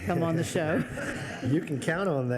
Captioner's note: everyone laughs